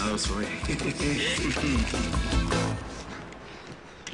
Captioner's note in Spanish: Ríe